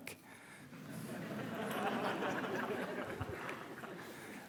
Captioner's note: audience laughing